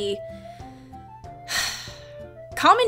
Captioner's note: sighs